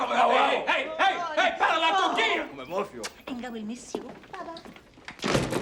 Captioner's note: spanish, Indistinct